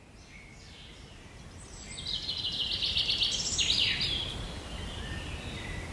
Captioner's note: forest sounds play